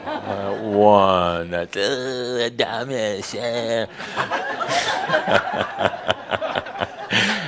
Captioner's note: laughter